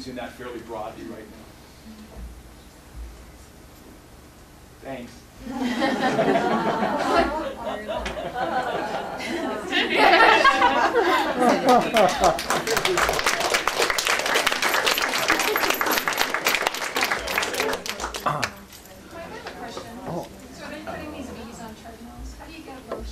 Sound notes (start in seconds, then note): 5.4 laughter; 11.4 applause